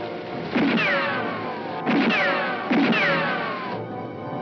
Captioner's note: guns firing